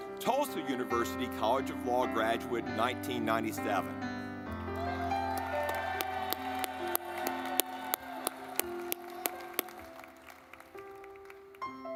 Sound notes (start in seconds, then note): 4.7 audience clapping; 4.9 gentle music